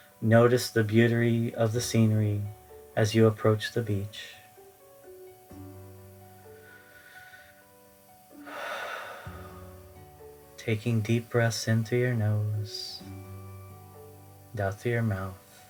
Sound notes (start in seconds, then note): 8.4 exhales